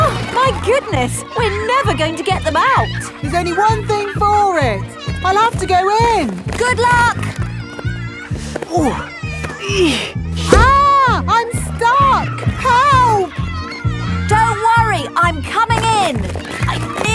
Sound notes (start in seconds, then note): 8.8 grunting